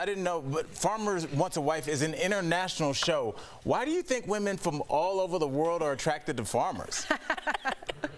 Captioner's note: laughter